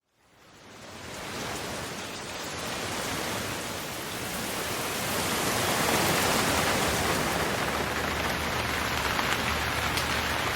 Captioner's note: rain pouring